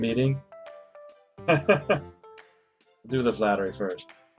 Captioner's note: chuckles